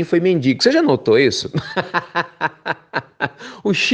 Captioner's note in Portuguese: risos